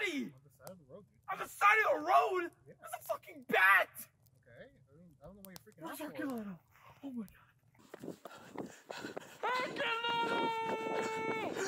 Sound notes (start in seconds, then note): 7.8 Herculano Breathes Heavily